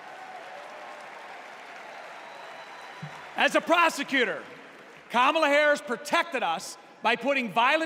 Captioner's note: applause